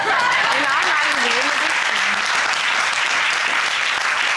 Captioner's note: courtroom applauding